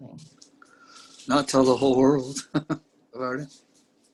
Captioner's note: chuckles